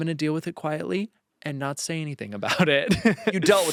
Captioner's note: laughs